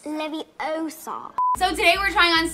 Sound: beep

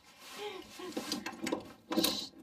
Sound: sobbing; rustling sound

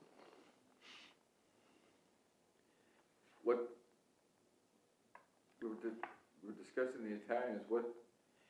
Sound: brief pause in speaking

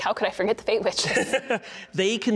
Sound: laughing

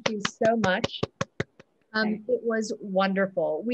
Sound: claps

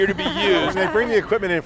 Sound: laughter

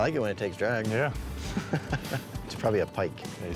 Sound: chuckling

